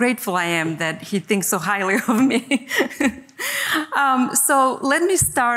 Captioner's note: chuckles